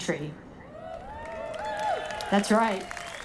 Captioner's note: audience applauding